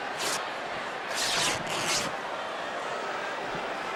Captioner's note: apron ripping